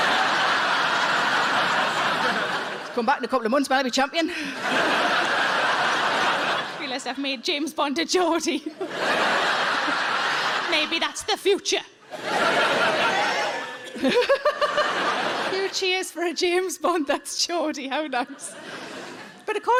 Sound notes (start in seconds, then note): 0.0 audience laughing; 12.4 audience cheering